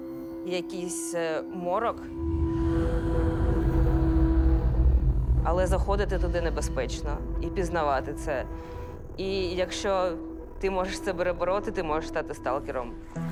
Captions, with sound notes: Some darkness of the unknown. [ghostly sigh] It's dangerous to go there and explore it. And if you can overcome that feeling, you can become a "stalker."